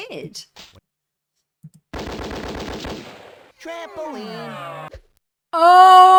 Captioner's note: gunfire